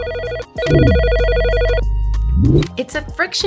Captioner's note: phone ringing